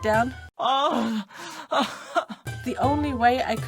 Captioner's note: crying noises